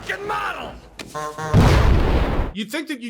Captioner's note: honk honk